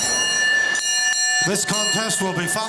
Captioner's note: bell ringing